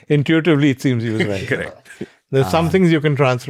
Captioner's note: laughs